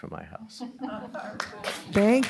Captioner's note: laughter